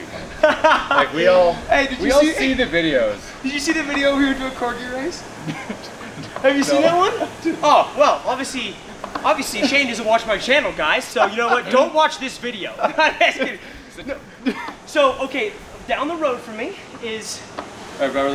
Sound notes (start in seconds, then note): 4.7 laughs; 12.9 both laugh